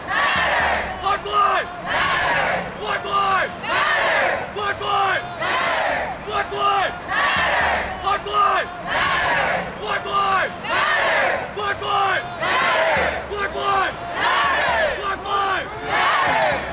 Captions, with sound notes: [crowd] MATTER! BLACK LIVES! [crowd] MATTER! BLACK LIVES! [crowd] MATTER! BLACK LIVES! [crowd] MATTER! BLACK LIVES! [crowd] MATTER! BLACK LIVES! [crowd] MATTER! BLACK LIVES! [crowd] MATTER! BLACK LIVES! [crowd] MATTER! BLACK LIVES! [crowd] MATTER! BLACK LIVES! [crowd] MATTER!